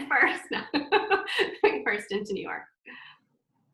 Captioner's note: laughs